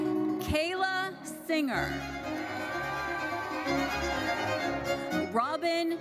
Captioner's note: audience cheers